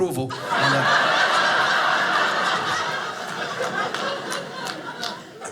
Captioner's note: audience laughing